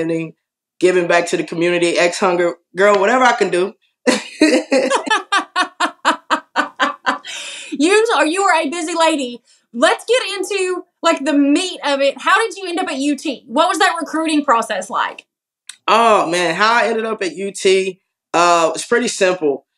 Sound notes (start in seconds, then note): 4.2 laugh